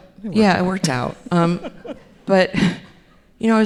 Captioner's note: laughs